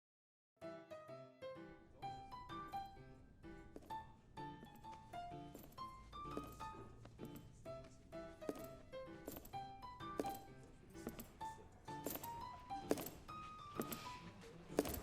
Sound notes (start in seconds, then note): 0.6 footsteps click slowly; 0.6 upbeat swing music